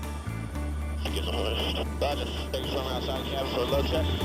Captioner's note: radio chatter